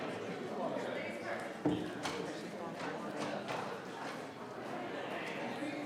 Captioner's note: attendees chattering continues